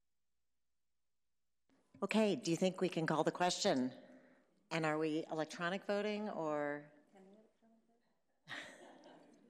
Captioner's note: laughter